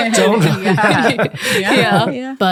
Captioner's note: all chuckling